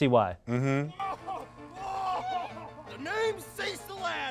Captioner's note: laughs